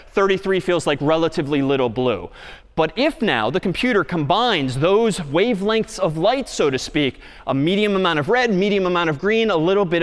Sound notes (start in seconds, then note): none